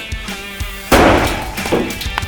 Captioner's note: bottle explodes